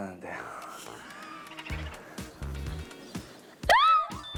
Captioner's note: burst out in laughter